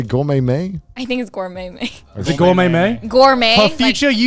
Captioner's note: laughs